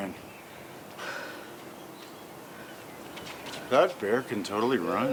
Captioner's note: Dude1 sighs